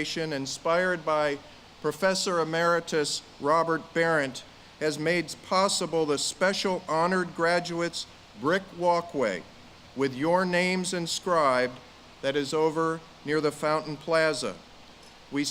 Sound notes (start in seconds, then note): none